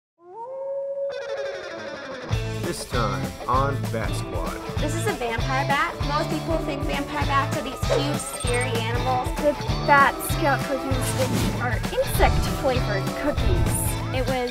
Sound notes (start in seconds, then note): 0.2 wolf howls